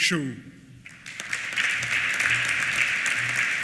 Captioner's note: applause